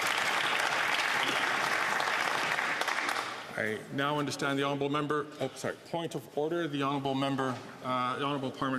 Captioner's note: some Applause